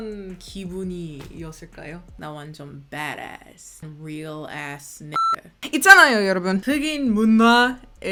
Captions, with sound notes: I'm a bad-ass, real ass (beep).